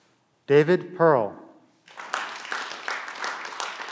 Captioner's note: clapping